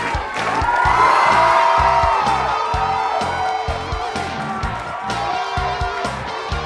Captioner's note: lively music; students cheering